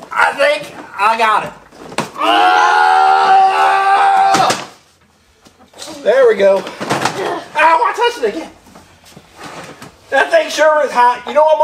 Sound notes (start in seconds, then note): 2.4 mechanic yells